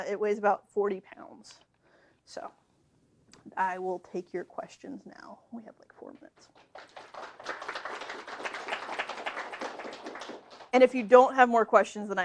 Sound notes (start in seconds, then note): 6.5 applause